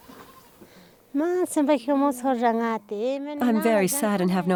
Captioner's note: speaking foreign language